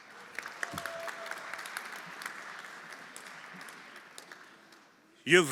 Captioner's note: everyone applauding